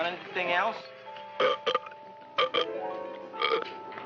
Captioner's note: burp